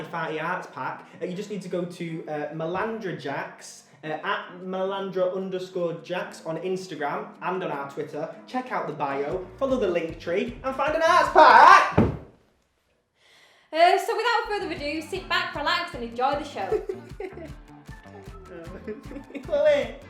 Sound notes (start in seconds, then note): 11.9 thud; 16.6 laughs